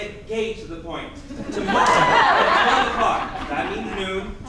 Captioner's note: audience laughing